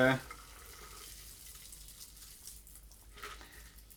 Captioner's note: drink gurgling